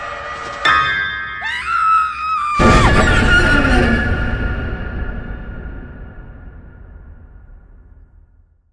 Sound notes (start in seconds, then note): 0.7 suspenseful music; 1.4 screams; 2.6 suspenseful music